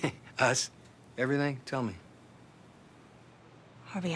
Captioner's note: laughs